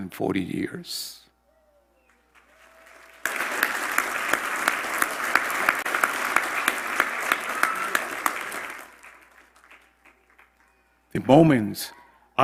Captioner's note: applause